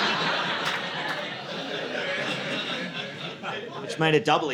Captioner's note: audience laughing